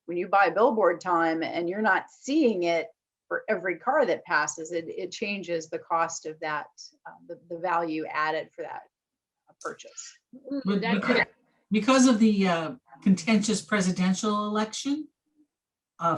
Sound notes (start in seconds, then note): 10.5 murmurs